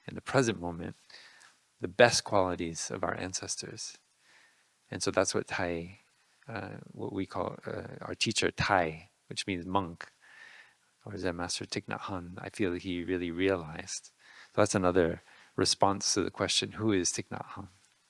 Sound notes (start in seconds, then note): none